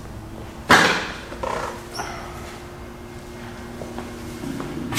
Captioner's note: object clatters